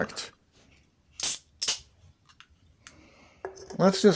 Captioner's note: beer opening sound